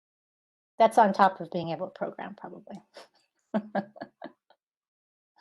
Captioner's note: laughing